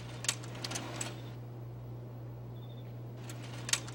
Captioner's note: clicking